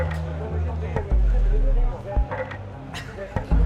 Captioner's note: indistinct chattering